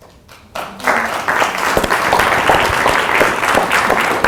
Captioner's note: applause